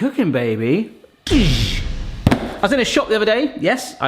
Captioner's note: makes blast sound